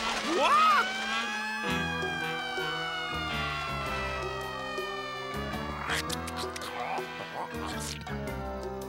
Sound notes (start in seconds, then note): 1.9 sirens wailing